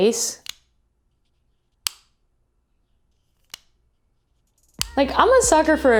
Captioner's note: opening and closing clicks